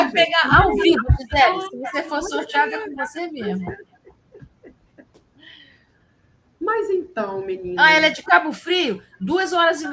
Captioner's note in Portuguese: risadas